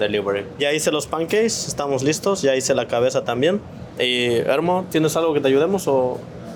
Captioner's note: speaks Spanish